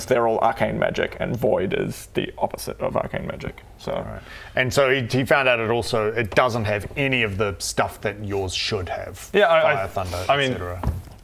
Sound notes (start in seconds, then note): none